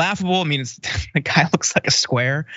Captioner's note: laugh